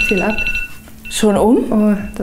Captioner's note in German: Timer klingelt